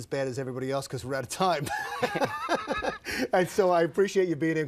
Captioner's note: both laugh